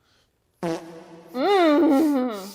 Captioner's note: farting sound